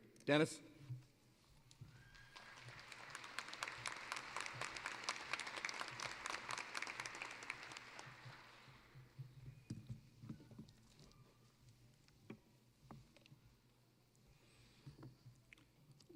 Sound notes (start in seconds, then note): 1.8 applause